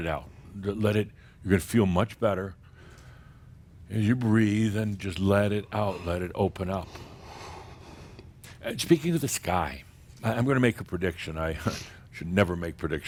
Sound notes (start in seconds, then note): none